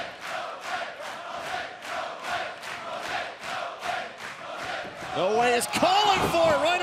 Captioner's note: fans chanting